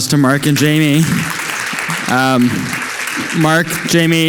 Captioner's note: audience applauding